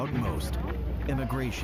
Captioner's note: HABLAN EN INGLéS